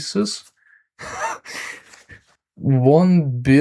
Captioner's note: wheeze